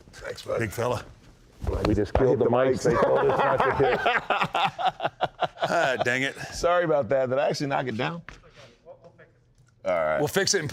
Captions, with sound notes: thanks buddy. Big fella. We just killed the mics. (both laugh) Dang it. Sorry about that. Did I actually knock it down? We'll fix it.